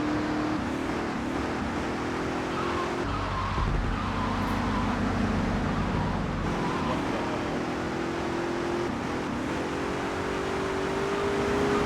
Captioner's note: plane engine roaring